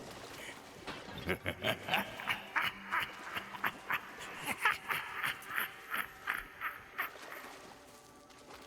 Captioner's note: laughs